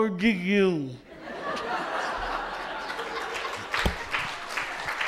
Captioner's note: laughter and applause